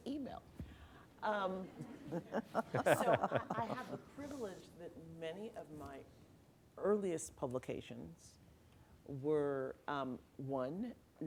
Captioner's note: laughter